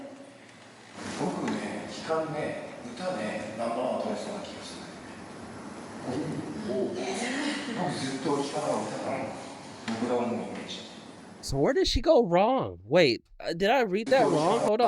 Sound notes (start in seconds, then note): 1.2 speaking in foreign language